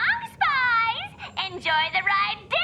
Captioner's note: intercom